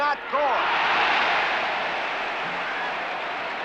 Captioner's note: crowd cheers and applauds